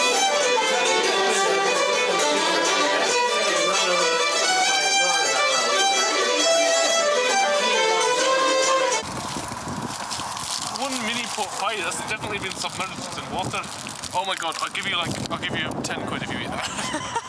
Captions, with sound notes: [Scottish accent impersonation] one mini pork pie that's definitely been submerged in water! [normal accent] Oh my God, I'll give you, like I'll give you ten quid if you eat that. [laughter]